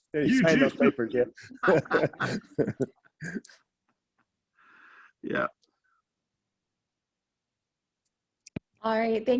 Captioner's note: laughter